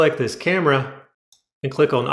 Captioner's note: click